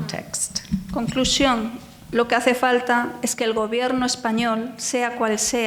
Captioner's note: speaking in foreign language